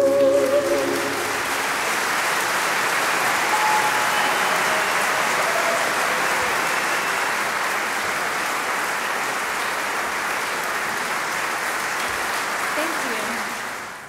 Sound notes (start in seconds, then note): 0.2 audience applauding; 3.7 audience cheering